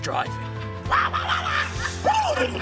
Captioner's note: warbles; whinnies